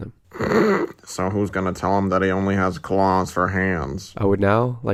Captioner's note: snickers